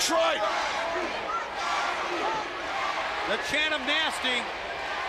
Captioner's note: crowd chatter